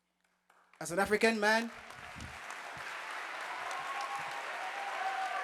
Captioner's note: audience applauding